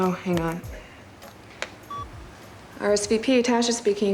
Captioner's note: beeps